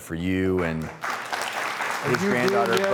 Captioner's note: audience applauding